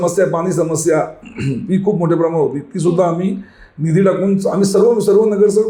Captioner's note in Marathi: घसा साफ करणे